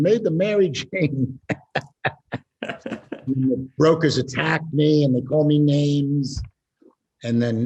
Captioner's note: laughs